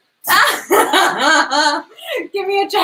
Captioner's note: laughs